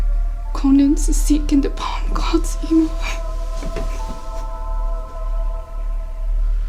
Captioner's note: weeps